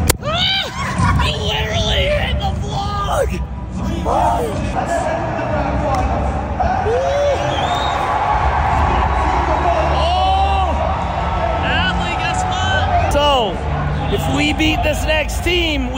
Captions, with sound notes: Ah! You literally hit the vlog. (people clamoring) Oh, Adley, guess what? So if we beat this next team,